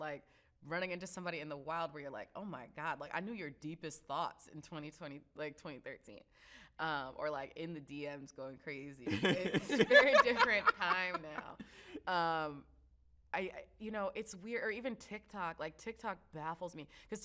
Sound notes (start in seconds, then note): 9.1 laughs